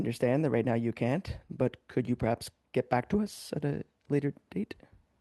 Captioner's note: speaking in French